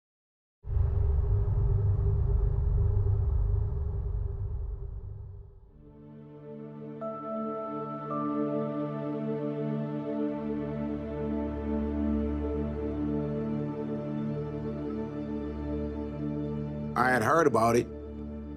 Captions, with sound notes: (dark atmospheric wind wooing) (gentle music) - I had heard about it.